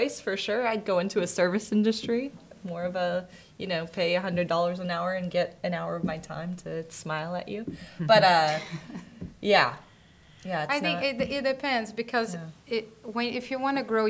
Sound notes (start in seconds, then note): 8.4 courtesy chuckles